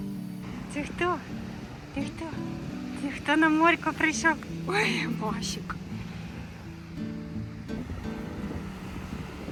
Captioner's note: noise of the sea